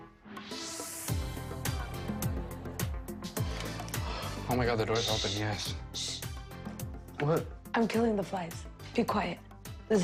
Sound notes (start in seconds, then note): 7.0 hushes